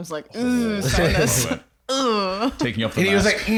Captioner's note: groans